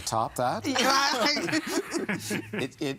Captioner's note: all laughing